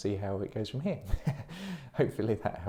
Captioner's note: chuckling